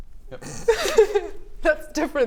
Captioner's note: snickering